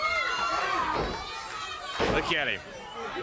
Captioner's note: crowd chatter